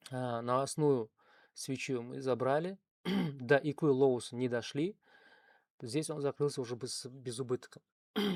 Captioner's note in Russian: откашливается